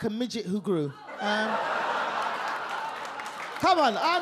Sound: audience laugh

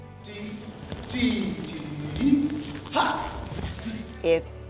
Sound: making sounds to represent beats

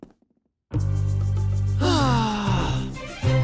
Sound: sighing

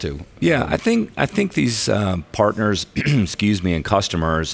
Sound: clears throat

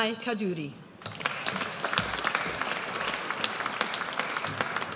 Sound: audience applauds

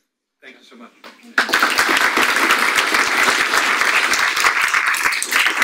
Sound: audience applauds

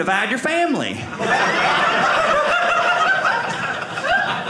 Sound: audience laughing

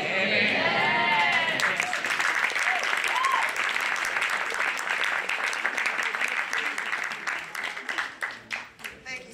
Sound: applause

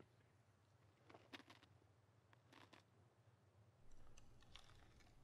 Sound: person whispering

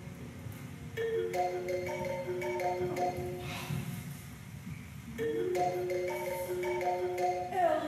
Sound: generic Apple ringtone

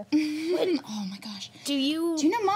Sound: chuckles

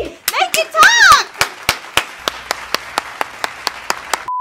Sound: clapping

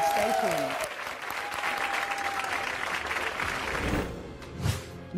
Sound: audience applause

